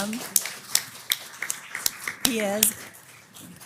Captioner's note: applause